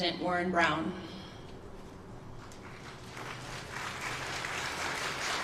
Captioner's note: applause